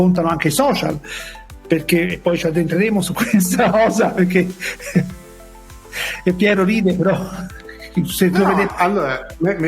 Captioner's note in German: lacht